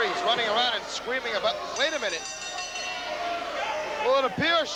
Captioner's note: crowd cheering